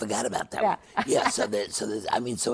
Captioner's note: laughs